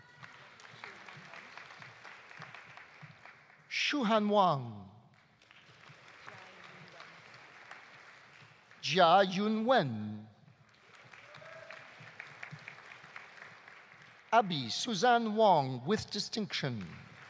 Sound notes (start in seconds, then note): 0.0 audience applauding; 5.2 audience applauding